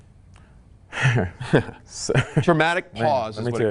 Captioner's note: both chuckling